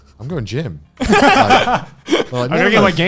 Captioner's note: laughing